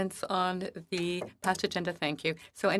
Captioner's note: speaking French